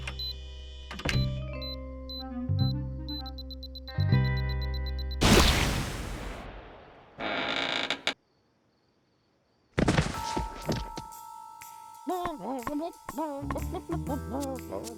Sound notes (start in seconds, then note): 3.4 accelerated beeping; 5.2 explosion; 7.1 creaking; 9.8 thud; 12.2 bawking melodically